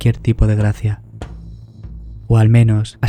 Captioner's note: knock the door